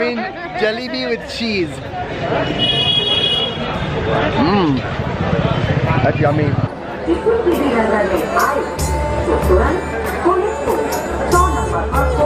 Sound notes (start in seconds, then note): 7.1 street and crowd noise